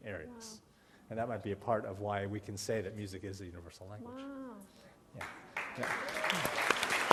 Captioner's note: applause